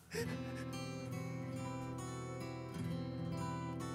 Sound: Ellie crying

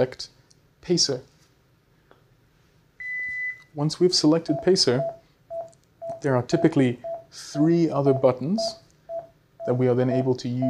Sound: beeping

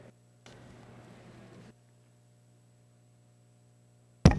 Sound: 8:34 of Silence Before Video Starts

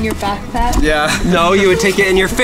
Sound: laughs

